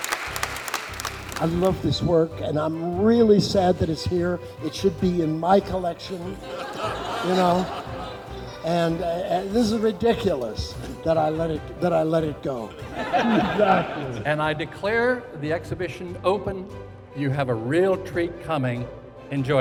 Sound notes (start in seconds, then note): 6.4 laughter; 12.6 laughter